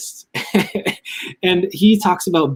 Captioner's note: laughs